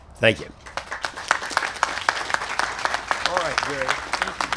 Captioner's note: applause